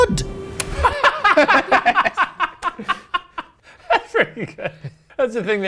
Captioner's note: laugh